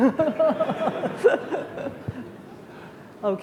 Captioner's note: laughing